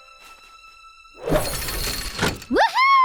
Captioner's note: mechanical leg retract